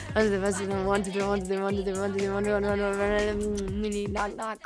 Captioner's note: kisses